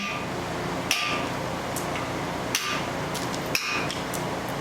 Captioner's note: hammer bangs